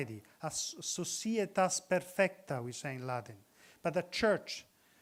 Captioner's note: speaks in foreign language